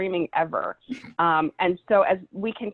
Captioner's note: chuckles